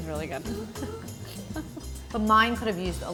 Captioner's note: laughs